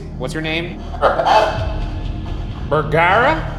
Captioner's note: Honeytone buzzing